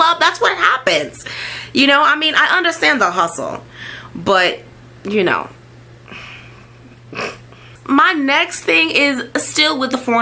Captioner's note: chuckle